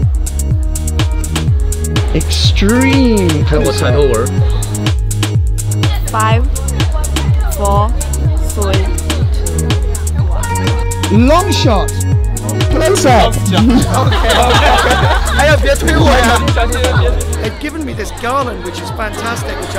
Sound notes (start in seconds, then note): 0.2 upbeat music; 13.3 laughs; 15.5 foreign language